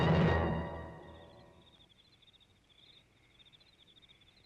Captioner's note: crickets chirping